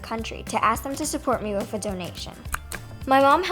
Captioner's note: mouse click